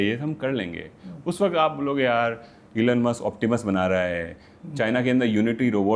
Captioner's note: sound of clearing throat